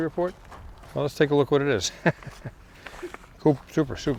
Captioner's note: laughs